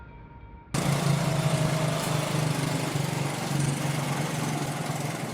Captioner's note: motorbike motor runs